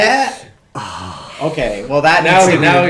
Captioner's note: laughing; sighs deeply